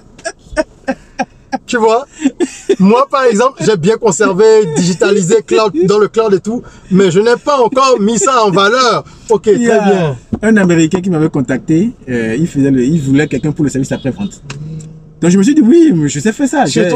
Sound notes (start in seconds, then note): 0.6 laughs